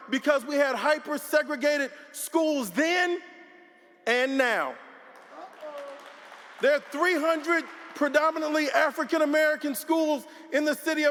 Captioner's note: applause